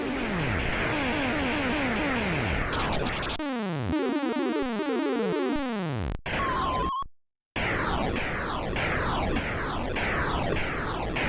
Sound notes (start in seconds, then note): 1.5 video game sound effects